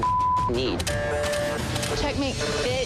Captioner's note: camera clicks